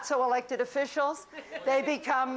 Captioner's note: laughter